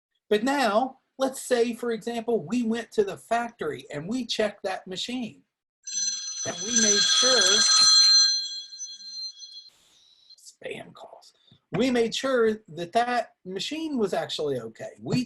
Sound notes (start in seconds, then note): 7.5 phone ringing